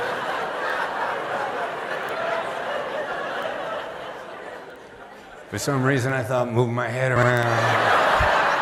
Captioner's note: laughter